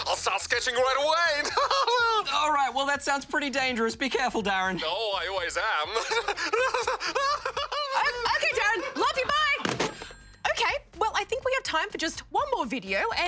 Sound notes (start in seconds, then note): 0.8 laughs; 5.8 laughs deliriously